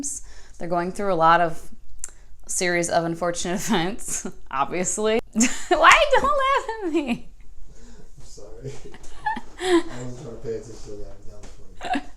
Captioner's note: boyfriend laughing in background saying it's funny